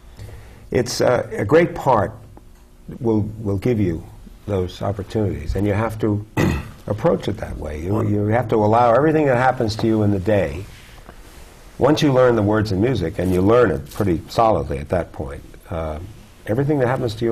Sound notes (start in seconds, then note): 6.3 clears throat